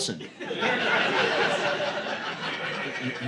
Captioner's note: audience laughing